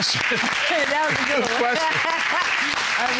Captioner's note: laughs